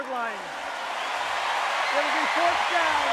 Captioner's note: cheering